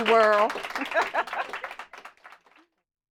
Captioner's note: applause